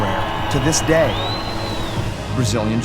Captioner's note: audience cheering